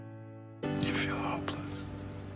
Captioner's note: voiceover